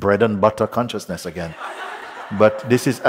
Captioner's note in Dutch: Gelach